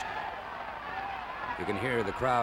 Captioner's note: crowd cheering